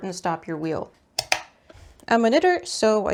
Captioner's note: plugging stuff in noises